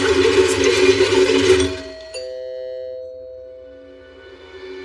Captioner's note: doooorbell ringngs; tense mususic